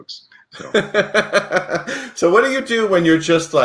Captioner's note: laughs